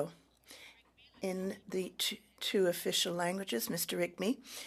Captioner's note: speaking French